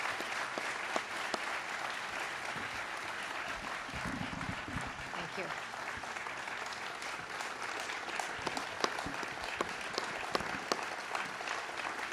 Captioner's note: applause